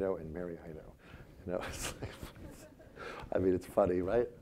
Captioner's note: laughing